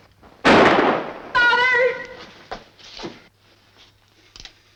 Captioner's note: gun fires